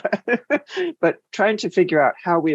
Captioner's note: laughs